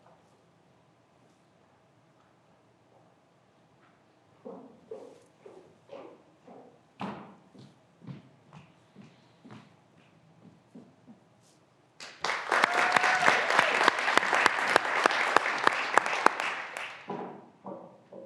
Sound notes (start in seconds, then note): 12.1 graduands cheering and applauding